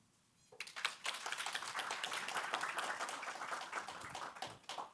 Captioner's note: attendees applauding